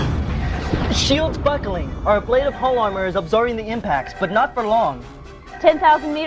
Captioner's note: explosion